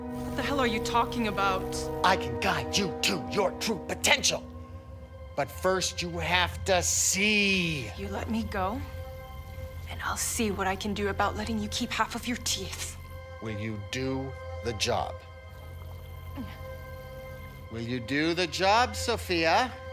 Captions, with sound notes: What the hell are you talking about? I can guide you to your true potential. But first, you have to see. You let me go... and I'll see what I can do about letting you keep half of your teeth. Will you do the job? [straining] Will you do the job, Sophia?